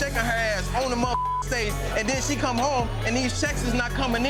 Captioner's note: beep